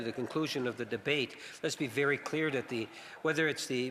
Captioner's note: some Applause